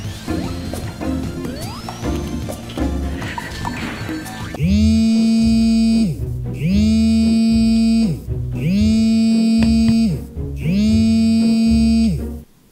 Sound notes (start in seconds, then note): 4.6 vibration of his phone